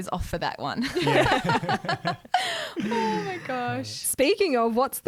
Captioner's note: laughing together